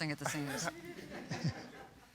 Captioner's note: laughter